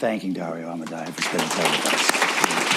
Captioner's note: applause